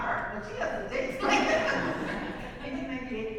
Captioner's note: laughs